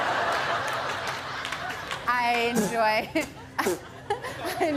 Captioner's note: laughter; spitting